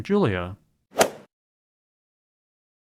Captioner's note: swoosh